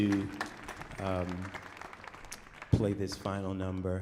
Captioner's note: audience applauding